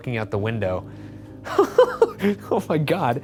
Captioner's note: Ryan laughing